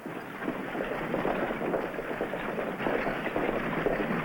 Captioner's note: horses galloping